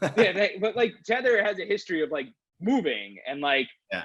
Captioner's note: chuckles